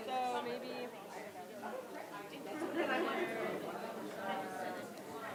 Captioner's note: audience chattering